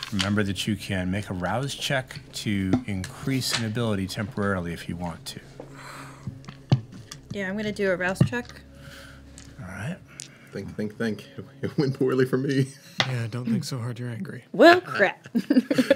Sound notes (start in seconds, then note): 12.9 chuckles; 15.2 chuckles